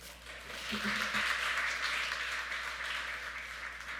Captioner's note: audience clapping